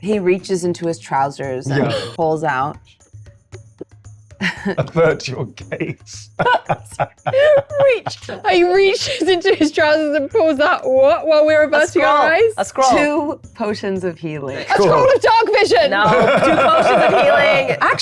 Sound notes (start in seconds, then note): 5.6 laughs